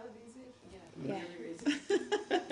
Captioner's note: laughter